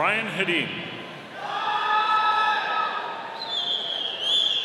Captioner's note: audience cheering